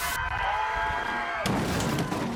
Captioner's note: crowd cheering